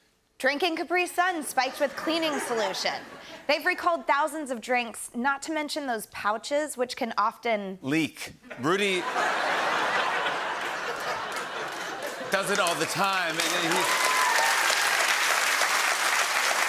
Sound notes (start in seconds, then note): 8.5 laughter; 13.5 laughter and applause